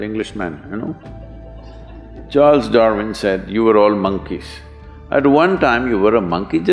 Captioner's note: few laugh